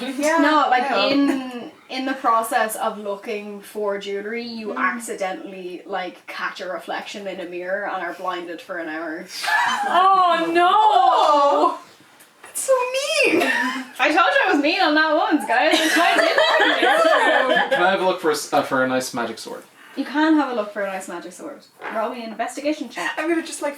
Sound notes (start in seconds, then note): 9.5 distressed noises; 15.6 laughter